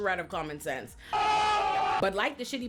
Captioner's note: screaming